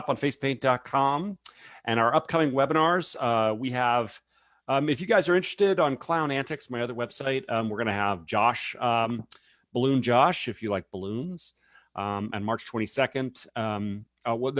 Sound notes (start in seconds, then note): none